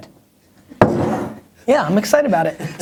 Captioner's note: laughter